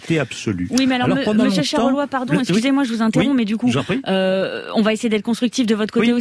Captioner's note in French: Voix journaliste